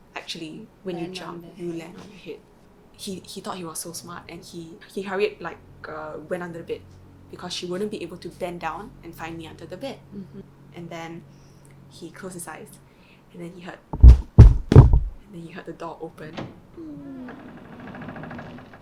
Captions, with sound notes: actually when you jump you land on your head he thought he was so smart and he he hurried like went under the bed because she wouldn't be able to bend down and find him under the bed and then he closed his eyes and then he heard [thud ,thud, thud] and then he heard the door open [door creaks open]